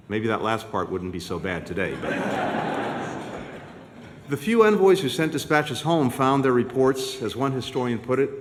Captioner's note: laughter